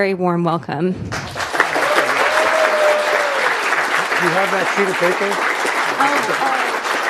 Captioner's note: applause